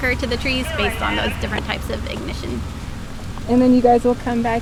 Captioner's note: radio traffic